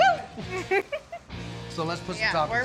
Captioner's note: giggles